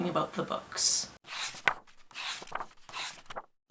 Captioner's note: pages turning